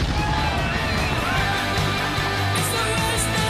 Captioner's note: cheering